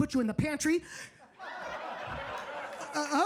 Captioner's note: audience laughing